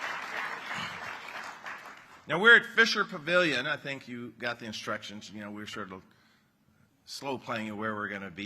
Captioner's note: applause